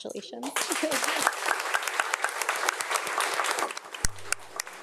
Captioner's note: audience applauds